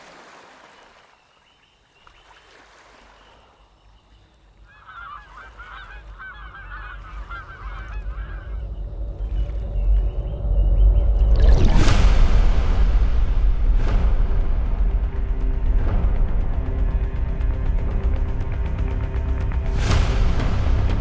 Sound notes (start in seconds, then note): 0.0 water splashing; 0.2 birds chirping; 4.5 seagulls cawing; 7.4 tense music; 11.8 dramatic music; 15.7 tense, suspenseful music